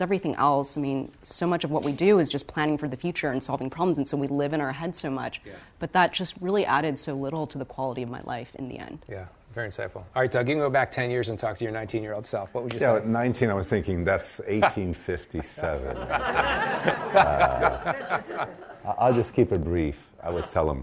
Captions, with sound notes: Because everything else, so much of what we do is just planning for the future and solving problems and so we live in our heads so much. But that just really added so little to the quality of my life in the end. - Very insightful. All right, Doug, if you can go back 10 years and talk to your 19 year old self, what would you say? - At 19, I was thinking, that's 1857. (laughing) I'll just keep it brief.